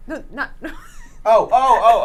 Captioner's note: laughs